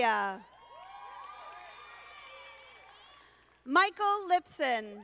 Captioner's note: audience applauding